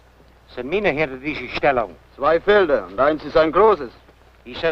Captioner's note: foreign language